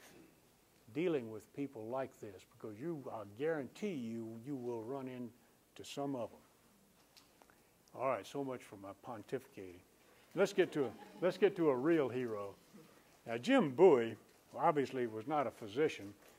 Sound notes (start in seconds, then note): 10.6 laughter